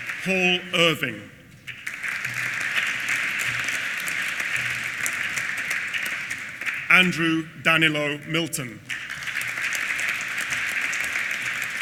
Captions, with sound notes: Paul Irving. (APPLAUSE) Andrew Danilo Milton. (APPLAUSE)